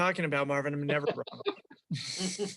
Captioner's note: all laughing